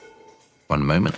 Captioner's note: pots rattling